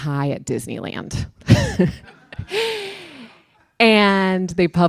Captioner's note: chuckle